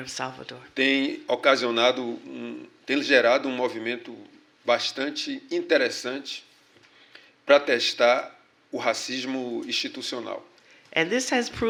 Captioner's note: speaking portuguese